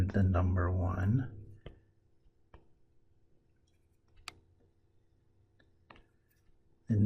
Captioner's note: tapping Sounds